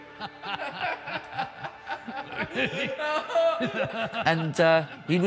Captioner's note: Tom and Julius laugh